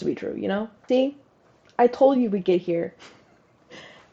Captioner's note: laugh